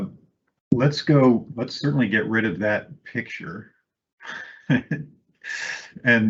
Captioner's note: laughs